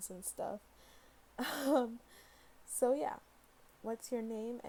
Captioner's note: giggle